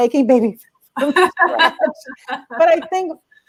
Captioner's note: laughter